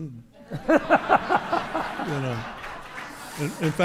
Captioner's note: audience laughing